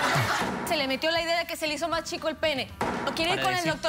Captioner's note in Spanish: risas